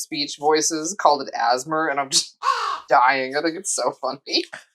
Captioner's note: caw